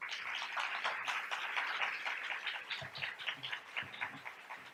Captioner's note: audience applauds